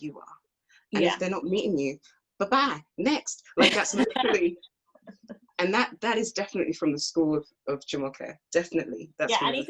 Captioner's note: laughs